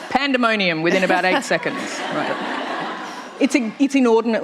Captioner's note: laughter